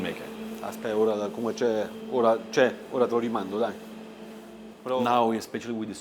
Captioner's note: speaking Italian